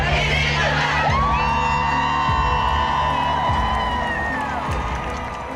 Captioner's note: cheering